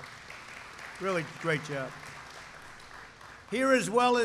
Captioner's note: applause